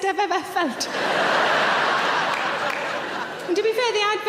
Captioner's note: audience laughing